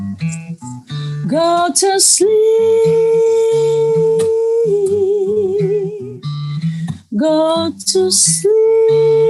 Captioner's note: claps